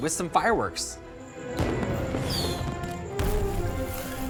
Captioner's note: explosive sound